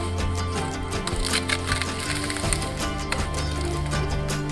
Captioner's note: tree snaps; upbeat music continues